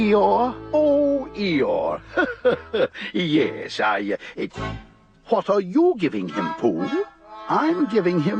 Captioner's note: chuckles